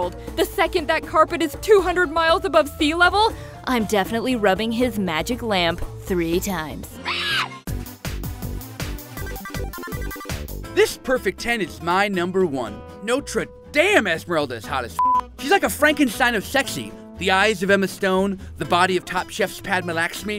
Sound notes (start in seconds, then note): 7.0 squawking; 7.7 upbeat techno music